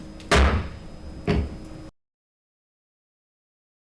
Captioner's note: gavel bangs